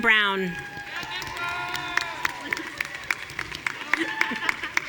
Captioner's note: audience cheering